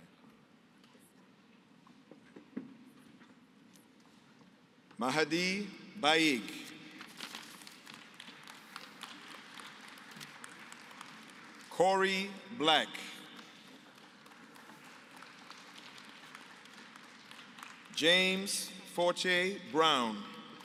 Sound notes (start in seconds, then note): 7.4 applause; 13.9 applause